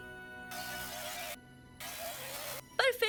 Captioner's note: glitching